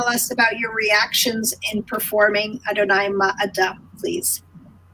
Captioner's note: speaking in foreign language